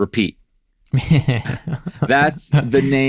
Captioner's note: laughs